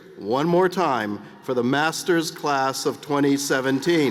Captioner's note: cheers and applause